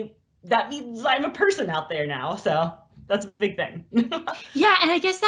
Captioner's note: laughs